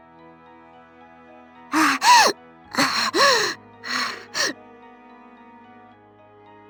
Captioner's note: panting